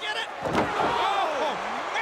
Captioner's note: crowd cheering